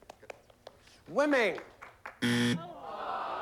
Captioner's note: buzzer